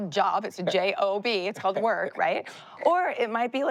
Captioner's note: laughs